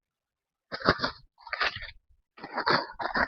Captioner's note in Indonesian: berdehem